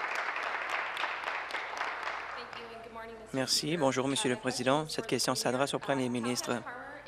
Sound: applause

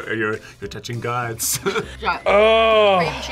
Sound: laughs

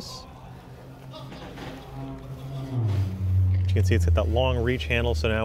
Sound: people talking in background

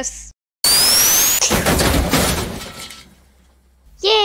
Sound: big crash

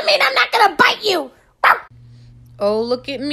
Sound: bark

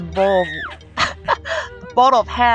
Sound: laugh

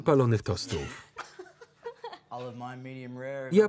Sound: laughter

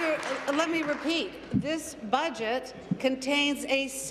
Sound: applause

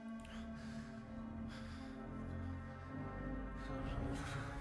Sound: Alister panting; tense music

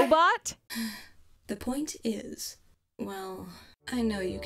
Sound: sigh

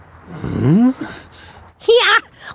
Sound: dad grunts

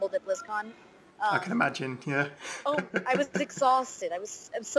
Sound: laughs

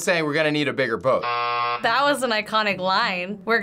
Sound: buzzer rings

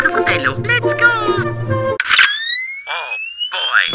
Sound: overdose of Italian gibberish; sound of a sniper rifle

